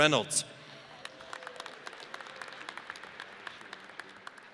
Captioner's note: audience applauds